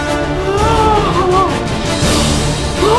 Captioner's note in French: Musique épic; Gémissement chelou de Norman; Musique épic; Gémissement vraiment chelou de Norman; Musique épic